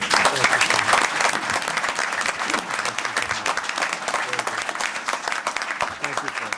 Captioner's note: applause